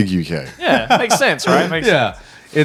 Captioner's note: laughs